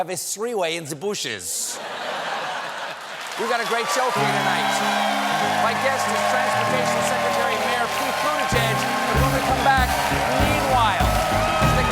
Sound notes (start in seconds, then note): 1.7 laughter